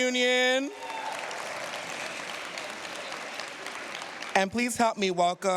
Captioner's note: cheers, applause